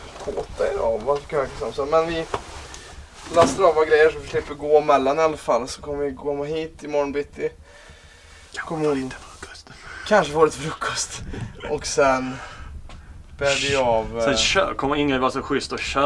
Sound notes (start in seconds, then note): 8.2 whispers